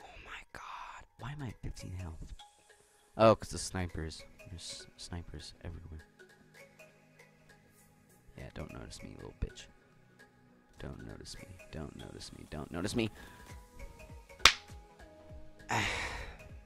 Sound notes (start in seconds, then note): 14.4 claps